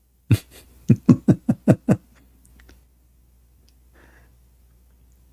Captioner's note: Ketawa